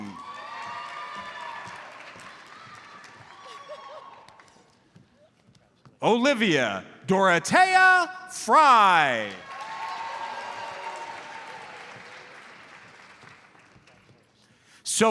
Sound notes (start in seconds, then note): 0.0 audience cheers and applauds; 8.8 audience applauds